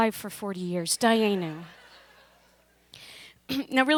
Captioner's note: laughter